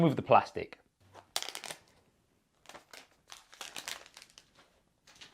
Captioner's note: plastic crackles